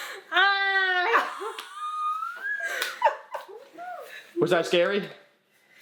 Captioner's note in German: Mama lacht